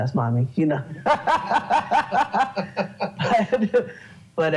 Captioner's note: laughs